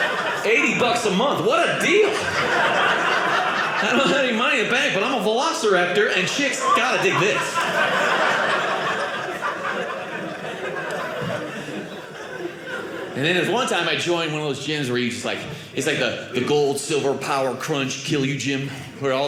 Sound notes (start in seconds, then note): 2.6 audience laughing; 5.9 audience laughing